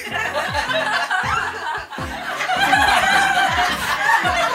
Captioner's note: laughing